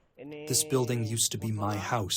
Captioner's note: through translator